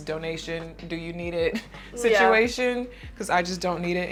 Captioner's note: laughs